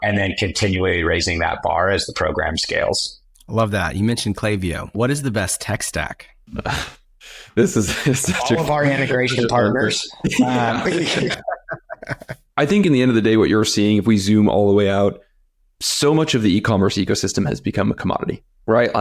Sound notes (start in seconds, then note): 7.7 chuckles; 10.2 all laugh